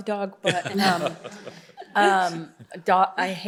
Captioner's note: laughter